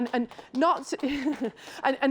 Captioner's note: applause